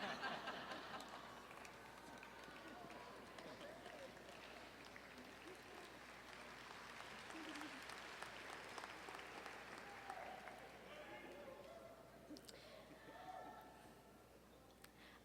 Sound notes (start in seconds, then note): 0.0 audience laughing; 2.1 audience applauding